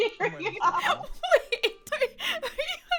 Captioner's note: laughs